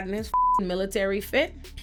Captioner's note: beep